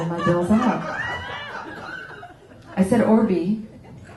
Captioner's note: laughter